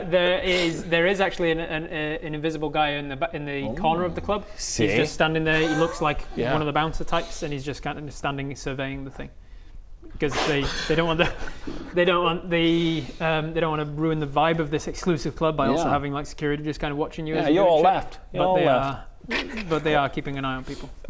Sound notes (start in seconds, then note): 11.2 blows